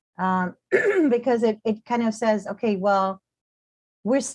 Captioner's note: clears throat